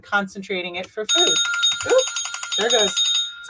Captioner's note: bell rings